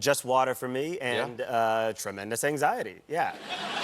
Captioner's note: laughter